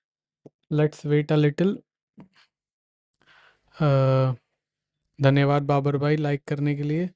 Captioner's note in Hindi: गहरी सांस लेने की आवाज़